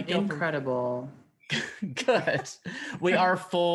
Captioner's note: laughing